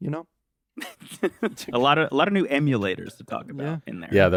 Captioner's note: laughs